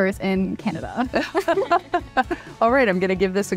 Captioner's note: laughing